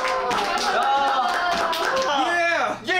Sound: Applause to celebrate the end of the US tour

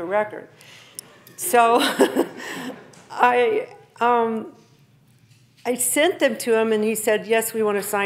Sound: laughing

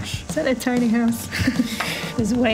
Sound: laughs

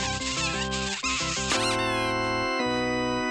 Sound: smooching; squeaking

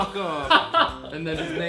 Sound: laughs

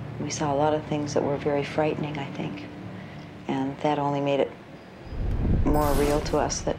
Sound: none

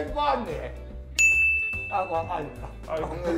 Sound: ding

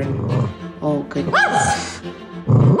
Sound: growl; woof; growl woof

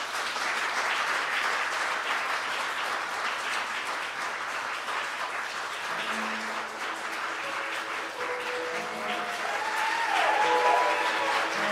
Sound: applause

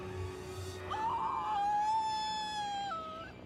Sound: screams

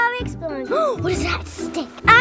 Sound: gasp

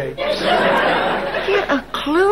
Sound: audience laughing

